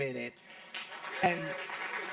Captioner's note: audience clapping